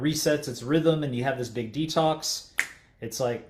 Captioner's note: finger snaps